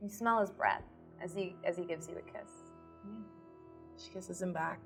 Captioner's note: none